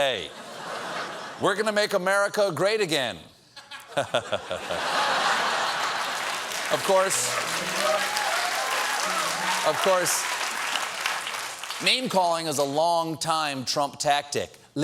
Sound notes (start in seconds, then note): 5.4 applause; 6.5 chuckles